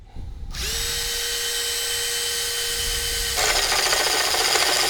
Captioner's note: drill buzzes